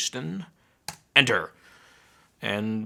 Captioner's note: keyboard clicking